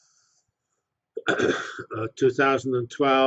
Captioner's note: cough